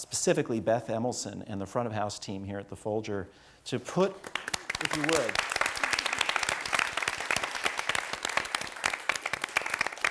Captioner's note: applause